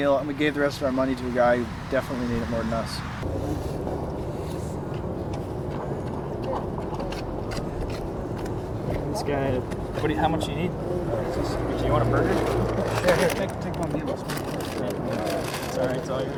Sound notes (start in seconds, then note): 4.9 footsteps crunching; 4.9 traffic humming